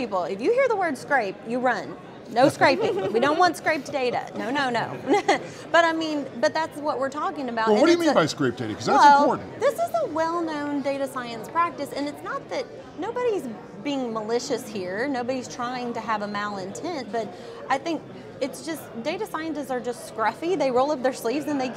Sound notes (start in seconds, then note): 5.3 laugh